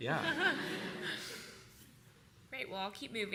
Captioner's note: laughter